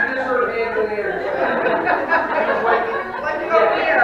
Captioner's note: audience laughing